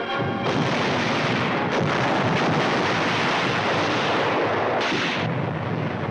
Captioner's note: frantic music; cannons and guns firing